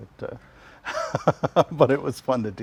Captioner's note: laughs